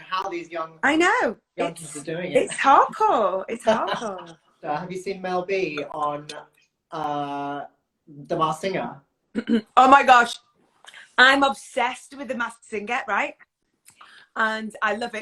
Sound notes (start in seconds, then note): 3.8 laughs